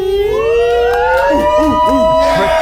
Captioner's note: all whooping